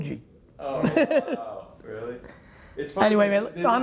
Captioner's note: laughing